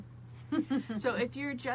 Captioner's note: laughs